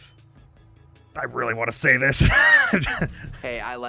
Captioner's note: wheeze-laugh